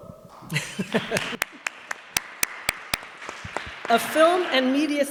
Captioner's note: audience applauds